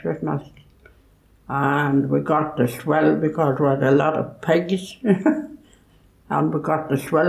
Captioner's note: laughs